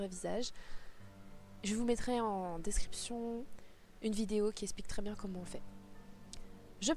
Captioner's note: french